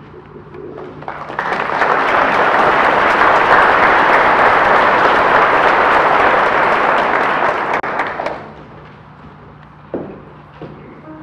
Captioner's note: audience applause